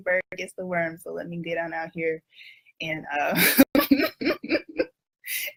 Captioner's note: laughs